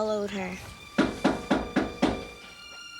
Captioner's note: knocking